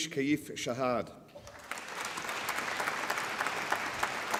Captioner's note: applause